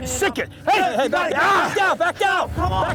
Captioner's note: shouting over each other